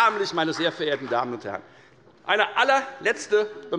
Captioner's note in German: Beifall bei der FDP